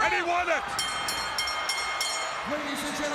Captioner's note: bell ringing